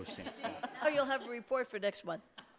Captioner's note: laughter